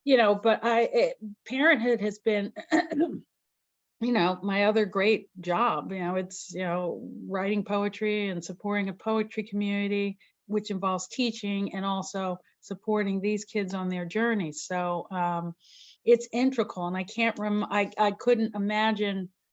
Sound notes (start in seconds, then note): 2.8 clears throat